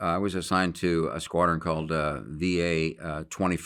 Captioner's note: none